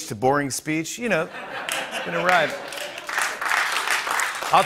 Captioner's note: laughter and applause